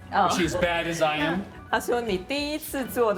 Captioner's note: speaking local language